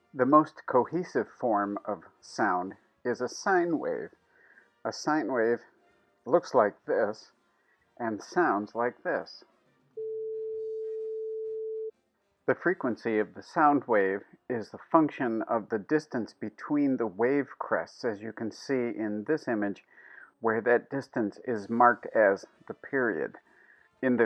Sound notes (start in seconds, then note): 10.0 sound of sine wave plays